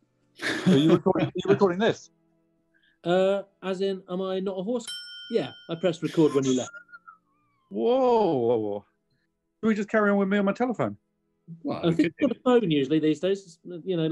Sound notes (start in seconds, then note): 0.4 laughs; 4.8 ding!